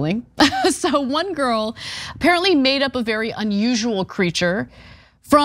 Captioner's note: laugh